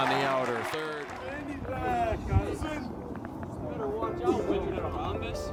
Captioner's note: players celebrating